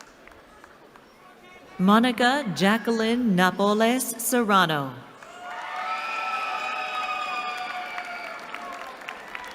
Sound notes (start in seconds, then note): 5.2 cheering